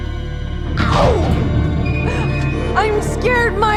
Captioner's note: loud thud